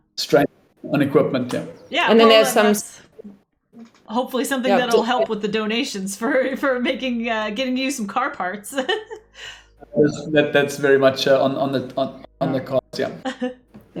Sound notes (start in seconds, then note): 8.9 laughs